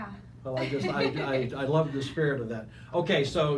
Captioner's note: laughing